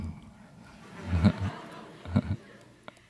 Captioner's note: laughter